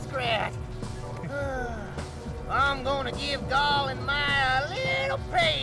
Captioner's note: sighs